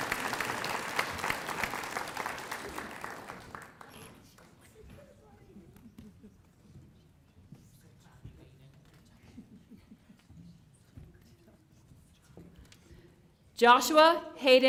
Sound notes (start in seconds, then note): 4.2 applause